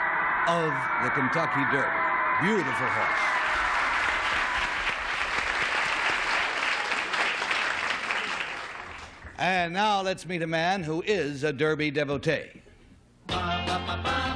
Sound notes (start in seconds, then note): 3.2 applause